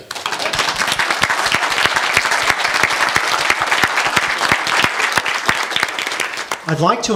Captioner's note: applause